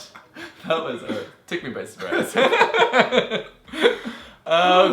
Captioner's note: laughs